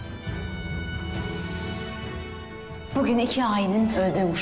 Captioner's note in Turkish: Derin bir iç çeker